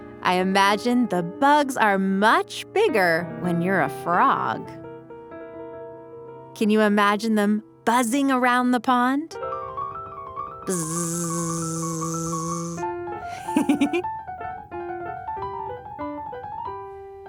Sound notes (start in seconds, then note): 0.0 piano music; 9.4 piano music; 10.7 buzzing noises